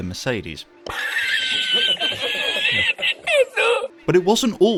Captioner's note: laughter